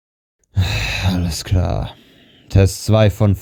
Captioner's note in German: seufz